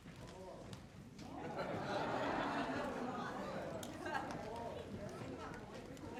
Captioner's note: audience and choir laughs